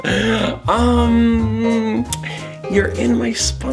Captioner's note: Patton laughs